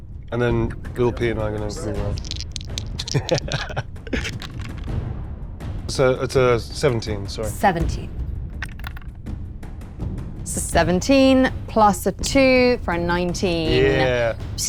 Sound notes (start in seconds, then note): 2.0 die rattling; 3.0 laughing; 8.6 die rattling